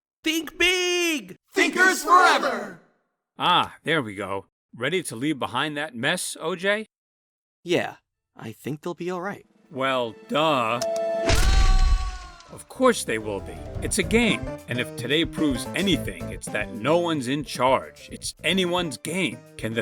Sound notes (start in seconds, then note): 10.9 button press